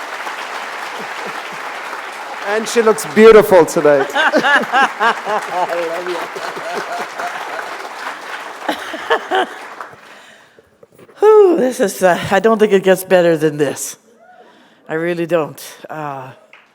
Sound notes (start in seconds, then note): 0.0 applause; 3.9 laughter; 7.8 applause; 8.6 laughter